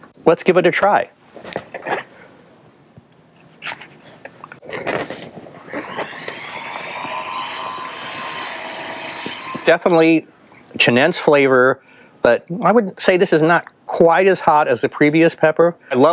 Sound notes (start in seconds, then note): 3.6 cutting and chewing